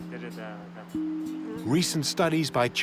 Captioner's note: speaking Tibetan